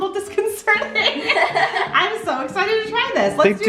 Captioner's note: laugh